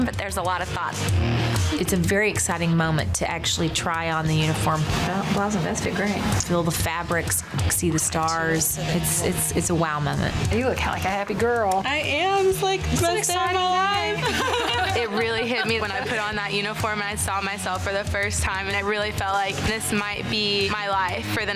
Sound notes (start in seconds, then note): 12.9 laughing